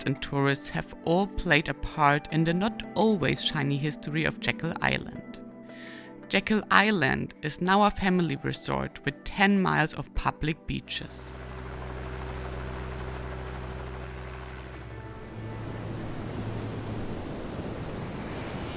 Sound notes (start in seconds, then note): 10.8 helicopter whirring